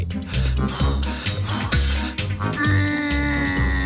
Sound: breathes heavily

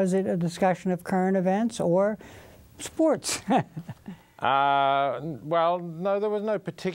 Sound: laughs

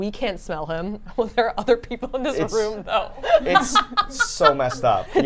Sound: laughs

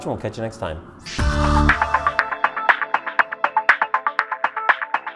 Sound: electric chime

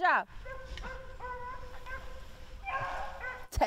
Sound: dogs barking

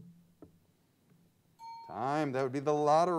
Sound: bell pings

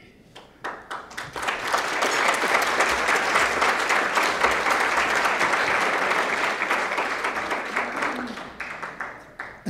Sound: applause

